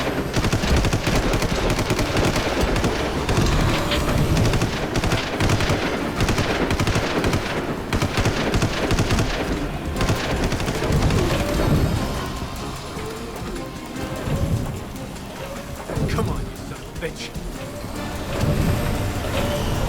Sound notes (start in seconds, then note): 8.7 gunshot